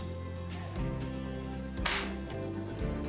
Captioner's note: gun clicks empty